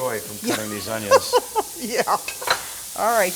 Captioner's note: laughing